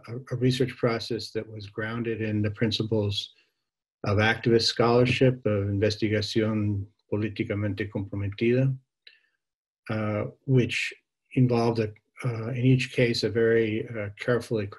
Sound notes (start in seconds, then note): 8.3 spanish speech